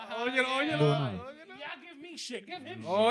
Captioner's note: speaking In Foreign Language